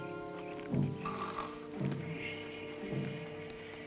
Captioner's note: snoring